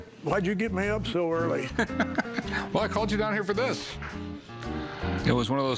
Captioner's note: laughs